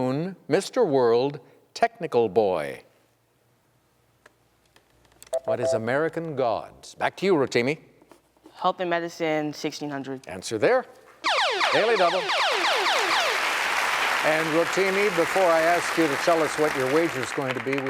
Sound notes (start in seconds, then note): 5.3 beep; 12.8 applause